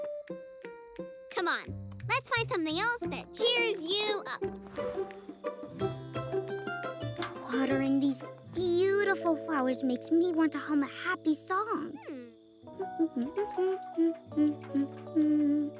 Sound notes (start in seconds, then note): 7.7 humming